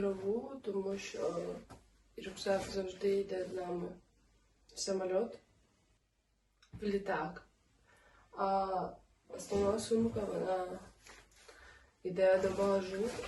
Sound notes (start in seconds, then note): 5.0 said in russian; 6.9 said in Ukrainian